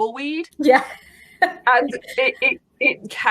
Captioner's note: laughs